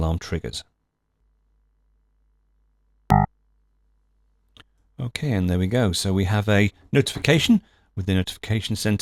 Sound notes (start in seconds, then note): 0.6 alarm buzzes